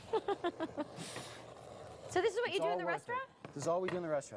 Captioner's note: laughter